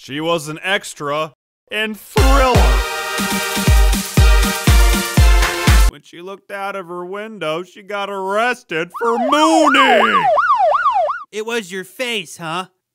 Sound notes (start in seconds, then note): 8.9 police sirens